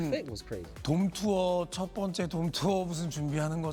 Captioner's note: speaking Japanese